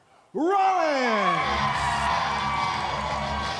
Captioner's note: crowd cheering